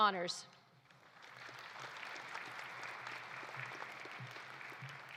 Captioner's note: audience applauding